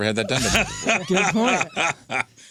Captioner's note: laughing